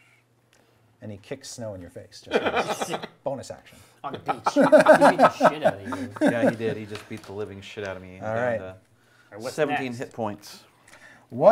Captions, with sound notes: And he kicks snow in your face. (laughing) Bonus action. (laughing) - He did he just beat the living shit out of me with that, 17 hit points.